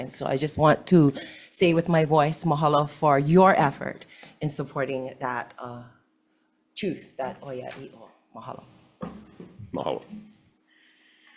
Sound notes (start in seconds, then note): 7.5 speaks foreign language